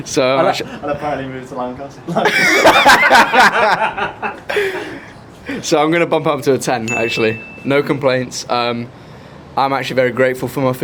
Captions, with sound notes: - So I, - I apparently moved to Lancaster (laughter) - So I'm gonna bump up to a 10 actually, (bell chime) No complaints. Um, I'm actually very grateful